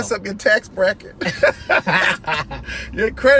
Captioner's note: laughter